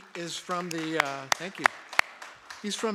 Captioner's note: applause